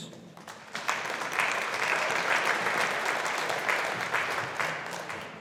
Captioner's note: audience applauding